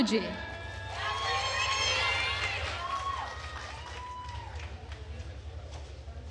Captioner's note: attendees cheering and applauding